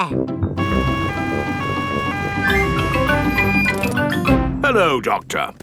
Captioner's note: siren wailing